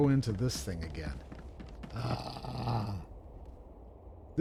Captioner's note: groaning